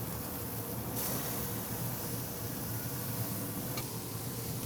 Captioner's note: sizzling